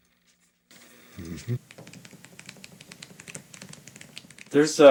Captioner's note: pages pattering